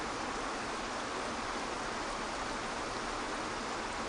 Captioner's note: water flowing